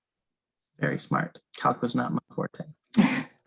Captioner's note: chuckles